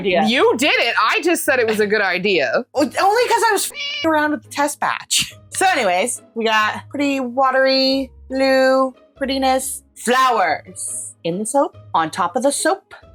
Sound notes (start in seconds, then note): 3.6 meow